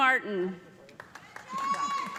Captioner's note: cheers and applause